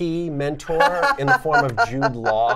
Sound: laughs

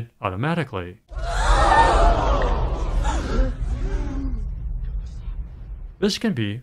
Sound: crowd gasping

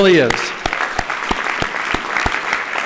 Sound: applause

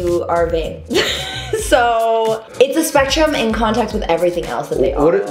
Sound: chuckles

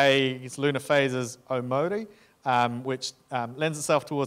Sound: speaking in foreign language

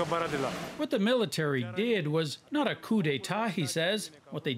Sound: speaking Foreign Language

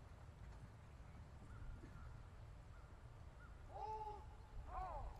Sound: soldiers shouting commands

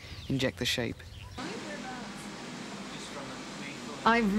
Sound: noises in the labratory

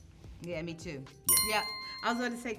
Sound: bell chimes

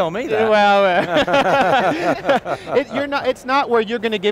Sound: laughs

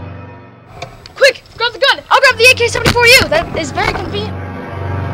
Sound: hissing

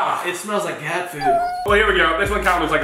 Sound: cat meowing

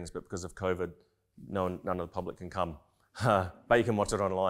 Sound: chuckling

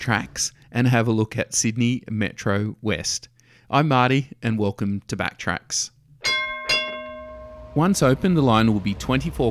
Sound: ding Ding

